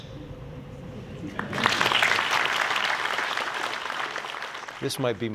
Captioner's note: applause